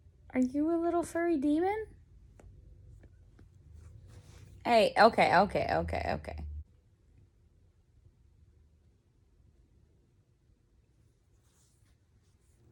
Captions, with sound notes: Are you a little furry demon? [sternly] Hey. Okay okay okay okay.